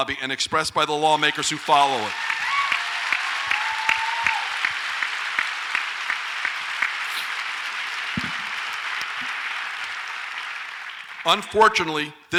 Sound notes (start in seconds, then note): 2.9 audience applauds and cheers